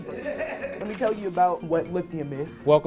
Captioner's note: audience laughs